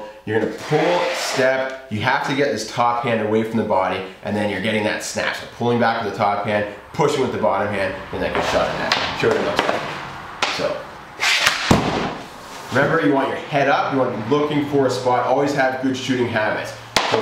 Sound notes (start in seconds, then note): 0.4 stick scrapes against floor; 8.8 stick clangs against puck; 11.1 stick scrapes against floor; 11.2 puck thuds against backdrop